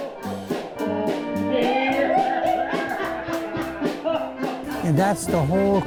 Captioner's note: polka music; everyone laughing to the beat